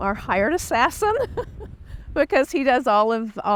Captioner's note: laughs